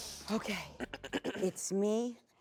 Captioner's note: clears throat